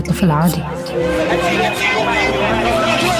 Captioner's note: crowd yelling